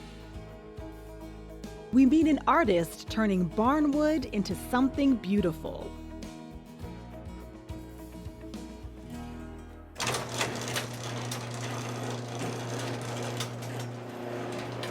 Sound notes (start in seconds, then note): 0.5 gentle music; 10.0 garage door opening; 11.7 saw whirring